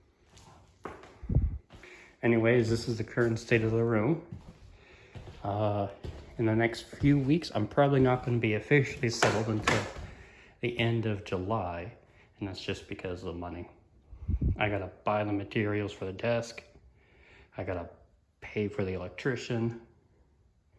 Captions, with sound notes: [ wind noise ] Anyways this is the current state of the room. uh for the next few weeks I'm probably not gonna be officially settled until [ two loud pops ] the end of July. And that's just because of money. I gotta buy the materials for the desk, I gotta .. pay for an electrician,